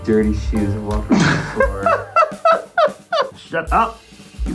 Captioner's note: laughing